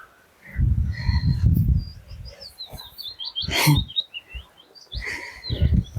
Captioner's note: birds Chirping